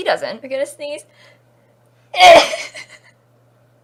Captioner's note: sneezes